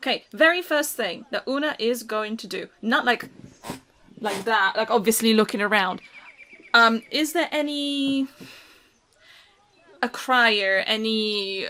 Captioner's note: chair squeaks